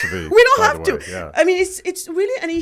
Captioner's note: laughs